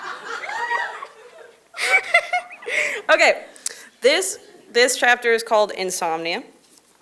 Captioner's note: audience Laughter